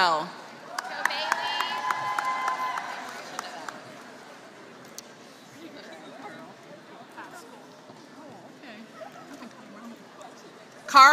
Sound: applause

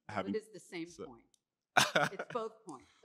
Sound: chuckles

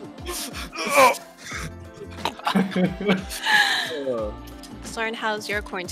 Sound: grunts; laughs

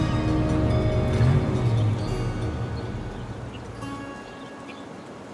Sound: engines revving

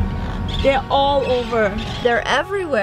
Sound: birds chirping

